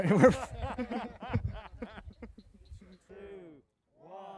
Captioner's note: man laughing